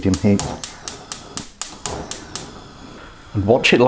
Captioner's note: gas ignition clicking